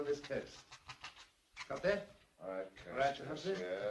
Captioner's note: pen scratching